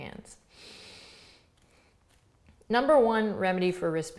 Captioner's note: inhales deeply